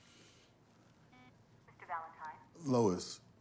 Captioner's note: intercom beeps